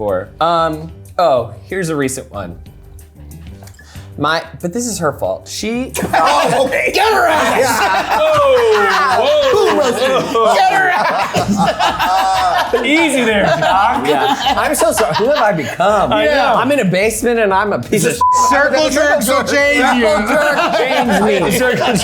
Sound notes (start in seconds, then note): 6.1 everyone laughing